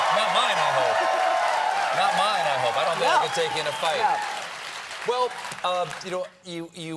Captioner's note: cheers and applause